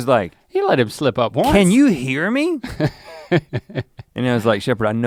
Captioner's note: Link chuckles